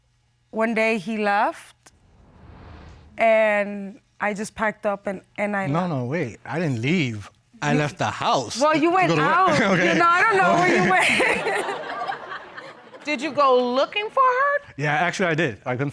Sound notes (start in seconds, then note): 8.7 chuckles; 11.4 laughs; 11.8 audience laughs